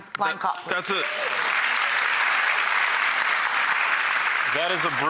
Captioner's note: audience applauding